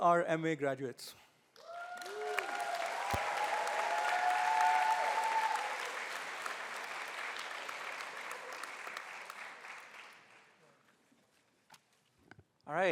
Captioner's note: applause